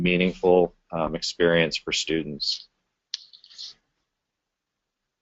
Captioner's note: pause